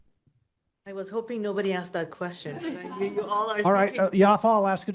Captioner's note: laughter